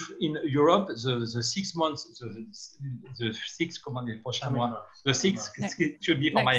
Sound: speaking in foreign language

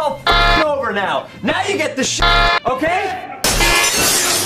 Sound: honk; honk

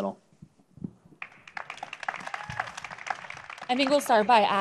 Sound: applause

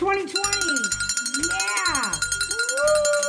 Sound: bell ringing

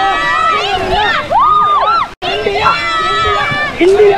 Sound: all cheering; all cheering

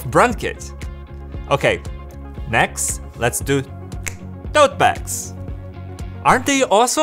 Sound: fingers snap

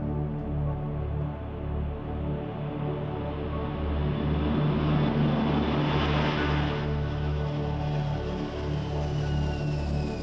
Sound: jet taking off

